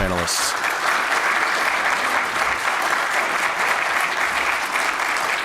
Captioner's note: applause